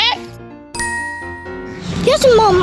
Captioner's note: magical ting